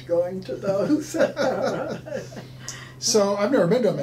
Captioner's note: laughing